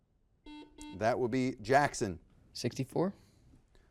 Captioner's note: buzzer beeps